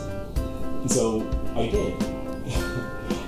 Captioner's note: giggle